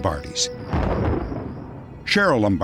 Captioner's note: thunder